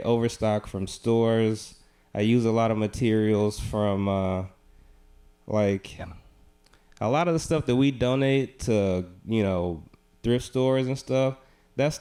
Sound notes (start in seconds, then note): none